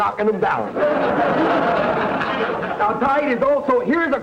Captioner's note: audience laughter